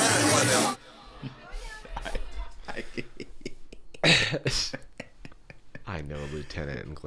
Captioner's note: laughing